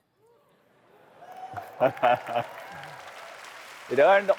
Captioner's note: applause